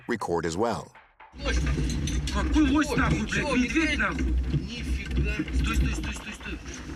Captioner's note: non-english speech